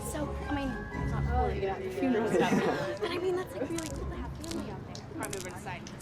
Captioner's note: chattering